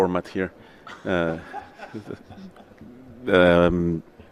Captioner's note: laughter